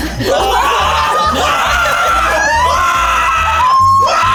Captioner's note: in puppet voice; screams